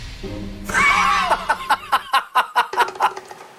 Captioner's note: burst of laughter upon seeing it